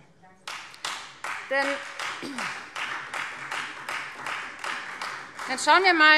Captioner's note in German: Beifall Freie Demokraten